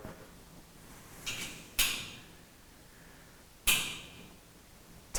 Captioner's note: metal clanks